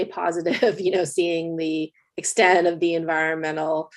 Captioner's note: laughs